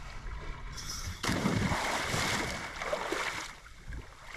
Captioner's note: diver splashes